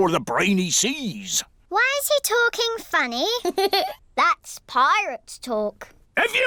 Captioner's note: giggles